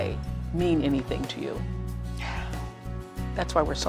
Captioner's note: exhales deeply